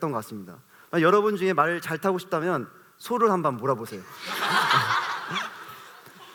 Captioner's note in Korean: 웃음